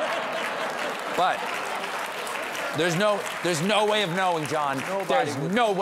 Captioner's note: laughter